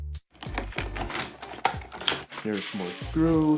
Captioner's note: more screw noises